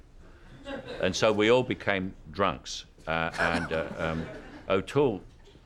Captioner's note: laughter